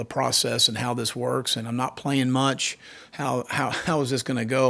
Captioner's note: chuckles